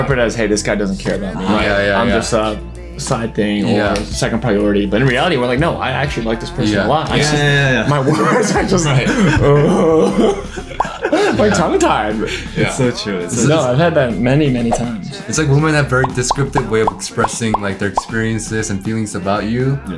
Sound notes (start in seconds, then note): 9.1 everyone chuckles